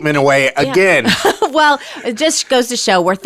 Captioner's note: laughing